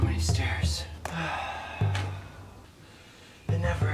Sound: sighs

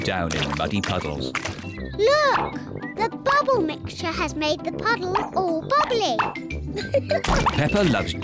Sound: laughs

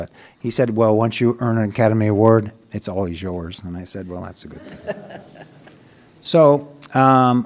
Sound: laughter

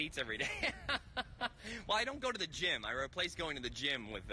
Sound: laughs

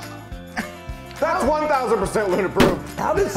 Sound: stamp slams

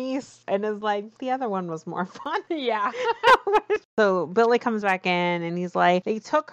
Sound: laughs

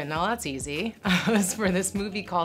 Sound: laughing

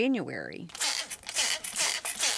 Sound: water spraying

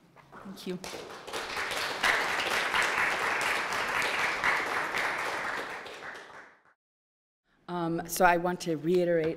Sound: applause

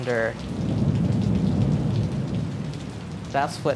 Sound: thunder crashes

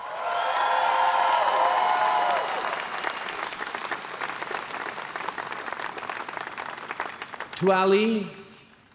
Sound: cheers & applause

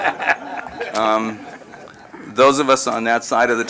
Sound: laughter

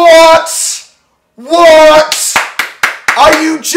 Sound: claps

